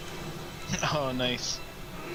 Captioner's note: chuckling